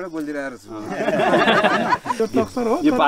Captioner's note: laughter